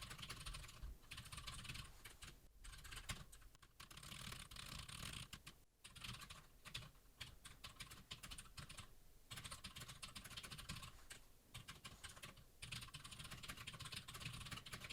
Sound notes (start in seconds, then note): 4.3 typing sounds